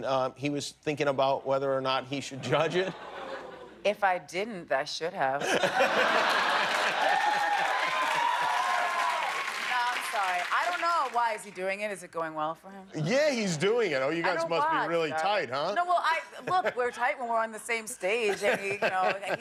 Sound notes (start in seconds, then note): 5.4 laughter; 6.1 cheers and applause